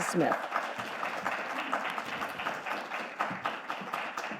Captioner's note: audience clapping